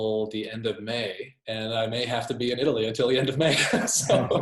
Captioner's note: laughs